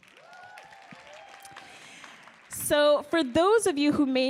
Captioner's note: audience cheering and applauding